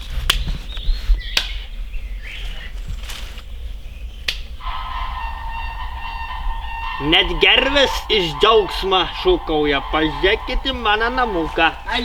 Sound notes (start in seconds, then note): 4.5 sounds of crane birds